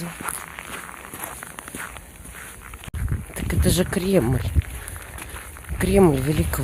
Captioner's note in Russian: хруст снега